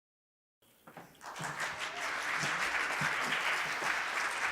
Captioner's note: applause